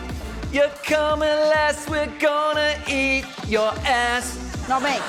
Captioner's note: laughter